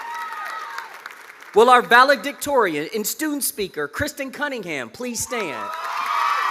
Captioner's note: cheers and applause